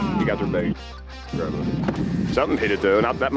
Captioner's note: fisherman exclaiming in disappointment